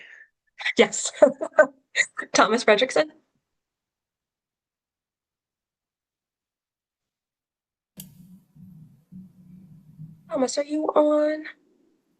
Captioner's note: pause